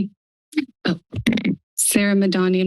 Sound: microphone noise

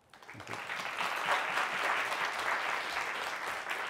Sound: applause

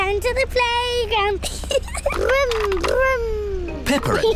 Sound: giggles

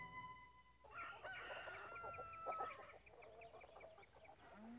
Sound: rooster crowing

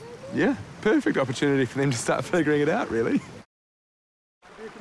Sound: chuckles

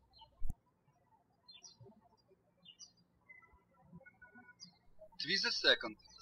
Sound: birds chirping

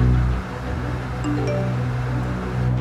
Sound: SMS signal

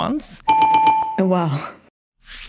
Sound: bell chiming

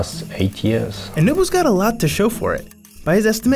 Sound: voiceover

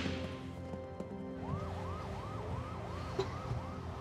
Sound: siren wailing

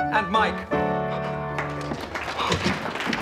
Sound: applause

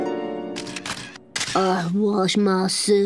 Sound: cameras snapping

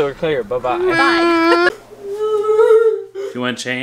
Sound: laughing

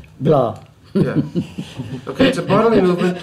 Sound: laughs

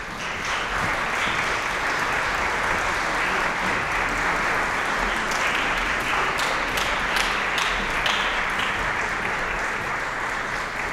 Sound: applause

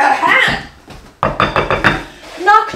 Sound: knocks on table

